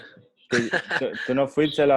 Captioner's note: laughs